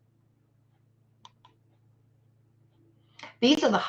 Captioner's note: computer mouse clicks